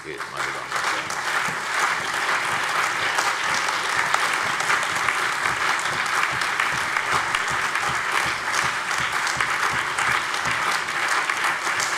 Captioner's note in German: Lebhafter Beifall CDU, BÜNDNIS 90/DIE GRÜNEN, SPD, AfD und Freie Demokraten